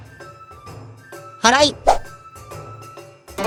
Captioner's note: sweeping